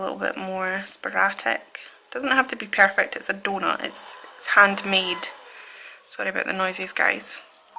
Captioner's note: strimmer sounds